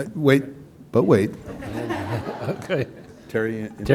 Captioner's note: laughter